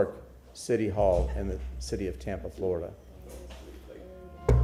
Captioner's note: sounding gavel